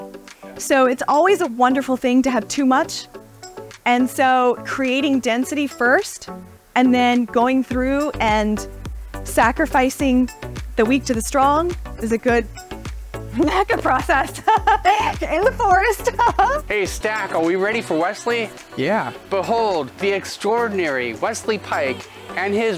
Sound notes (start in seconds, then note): 14.1 laugh